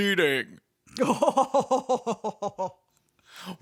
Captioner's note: more evil Phasma laughter